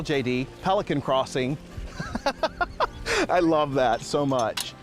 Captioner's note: laughter